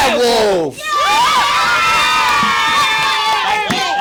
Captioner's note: cheering